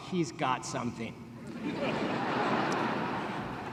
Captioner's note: laughter